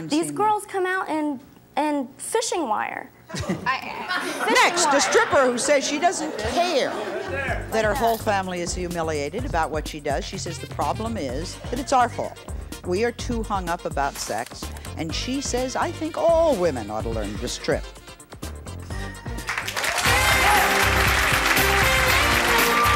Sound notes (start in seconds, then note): 3.3 audience laughing; 18.2 upbeat music; 19.2 audience clapping